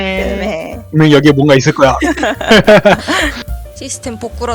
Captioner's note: laugh